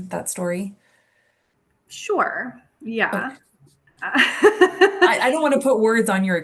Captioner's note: chuckles